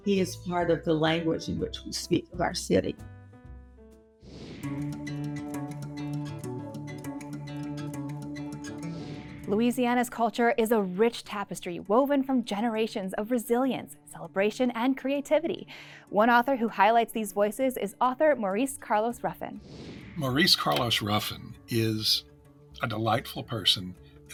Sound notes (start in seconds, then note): 4.2 screen whooshing; 4.6 lively music